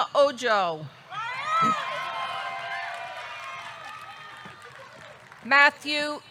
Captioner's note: audience cheering; audience clapping